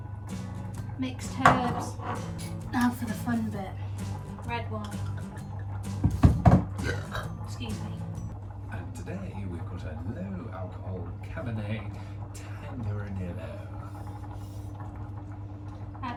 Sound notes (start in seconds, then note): 6.6 burps